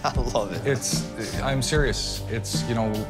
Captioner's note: laughter